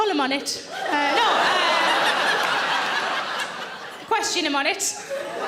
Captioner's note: audience laughing